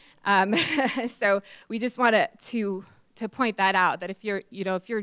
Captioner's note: laughs